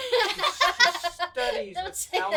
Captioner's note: laughs